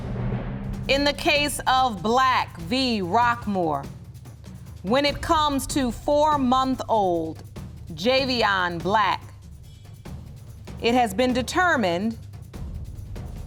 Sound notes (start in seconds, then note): none